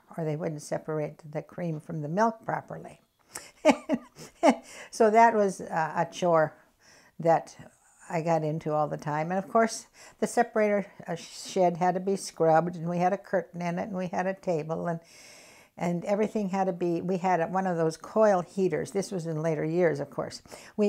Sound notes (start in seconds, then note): 3.4 laughs